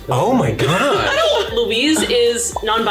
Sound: exclaims in shock

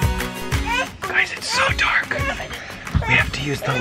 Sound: baby crying

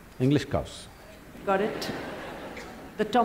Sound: laughter

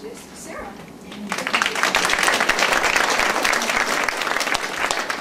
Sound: audience applauds

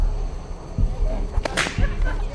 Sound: whip Crack

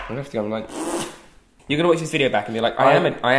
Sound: spluttering

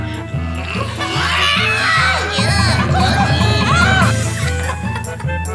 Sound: screaming; laughing

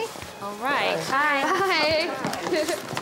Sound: chuckles

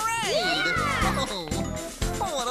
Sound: kids Cheer

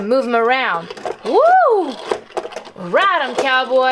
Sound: toy rattles

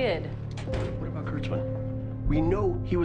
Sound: door closes

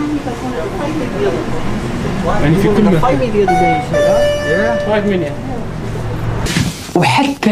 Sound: beeping machine

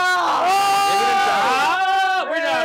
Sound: screams

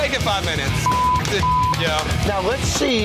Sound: beep

